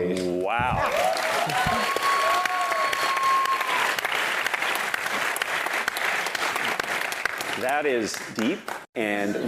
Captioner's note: applause